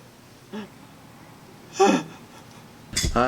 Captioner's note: pretend crying